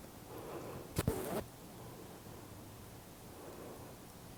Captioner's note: breathing deeply